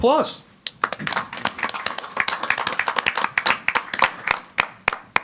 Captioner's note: group applauding